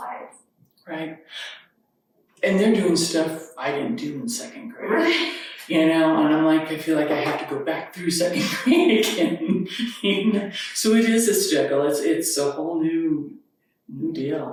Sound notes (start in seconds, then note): 9.8 chuckles